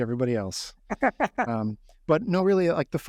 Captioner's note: laughing